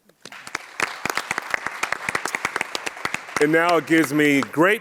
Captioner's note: audience applauds